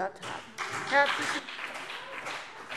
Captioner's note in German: Beifall BÜNDNIS 90/DIE GRÜNEN und vereinzelt CDU